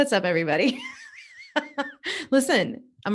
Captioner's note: laughs